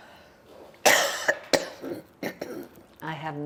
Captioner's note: coughing